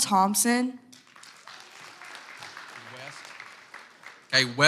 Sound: audience applauds

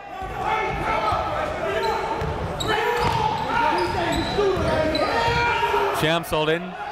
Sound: crowd talking; coaches yelling

